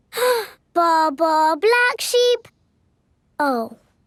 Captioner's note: inhales